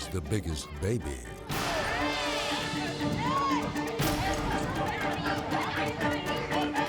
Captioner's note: intense music; people shouting